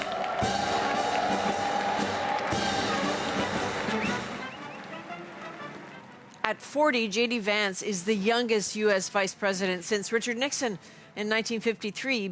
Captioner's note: cheers and Applause